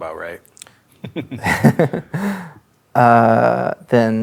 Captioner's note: laughing